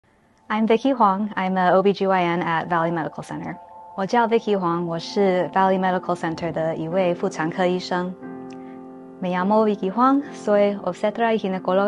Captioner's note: introductions in Mandarin and Spanish